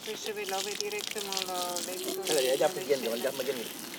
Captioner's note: speaks in senegalese